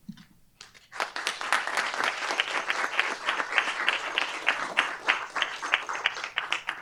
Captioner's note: applause